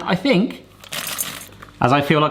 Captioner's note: popcorn tinkling